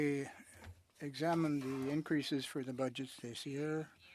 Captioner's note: speaking French